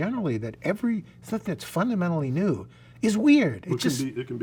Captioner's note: murmurs